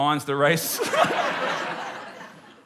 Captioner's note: laughter